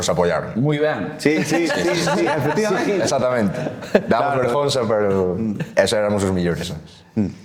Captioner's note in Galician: risas